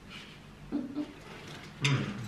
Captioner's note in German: laughs